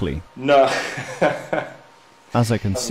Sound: laughing

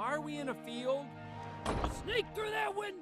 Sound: barn door closing

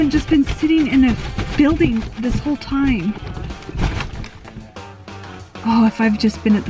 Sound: box rumbles

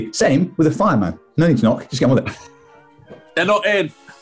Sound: sniggering

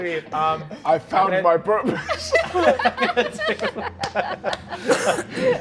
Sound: all laughing

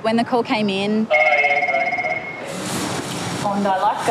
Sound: phone rings

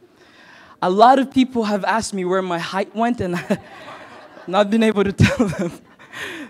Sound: chuckle

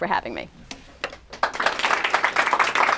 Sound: applause

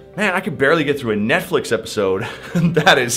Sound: chuckles

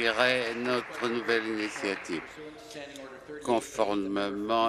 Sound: applause

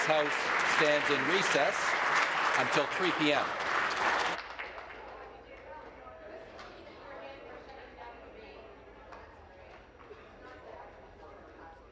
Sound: applause

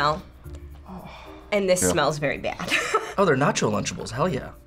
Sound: laughs

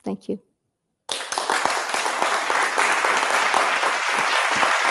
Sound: applause

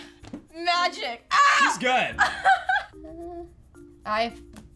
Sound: screams

